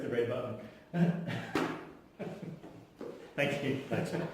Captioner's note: laugh